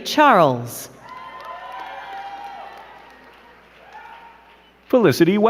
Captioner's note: crowd cheering and clapping